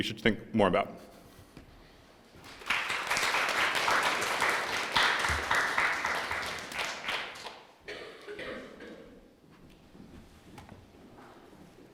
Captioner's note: applause